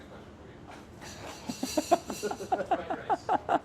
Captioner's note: laughs